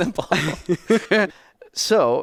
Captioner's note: both laughing